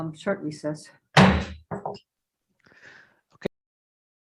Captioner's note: gavel thuds